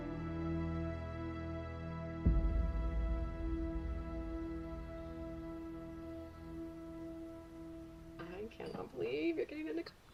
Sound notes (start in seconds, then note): 2.4 trees rustling; 5.1 birds chirping